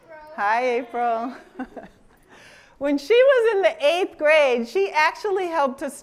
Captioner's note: laughs